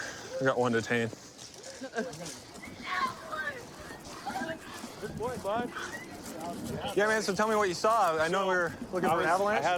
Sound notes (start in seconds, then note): 2.8 yelling